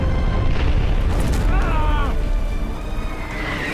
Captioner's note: shouts